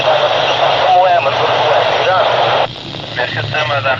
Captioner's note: radio clatter